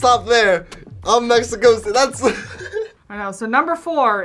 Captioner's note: laughs